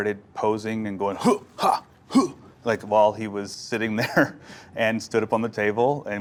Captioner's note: laughs